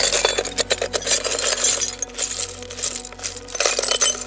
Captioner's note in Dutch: kletterende voorwerpen